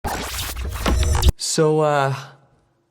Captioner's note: static sounds